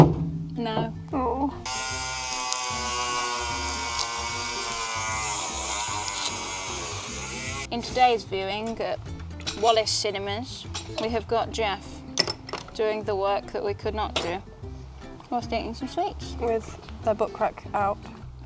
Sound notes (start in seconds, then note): 3.3 candy wrapper crinkling